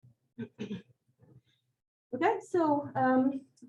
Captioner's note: clears throat